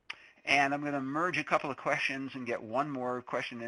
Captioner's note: voiceover